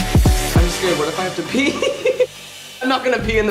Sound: upbeat music; laughs

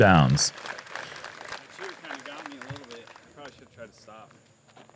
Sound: applause

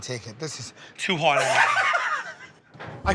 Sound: Joe laughs

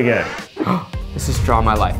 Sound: gasp

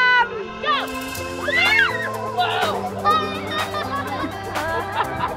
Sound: kids screaming

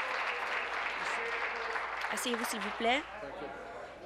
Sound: applause

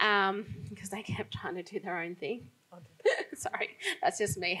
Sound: laughs

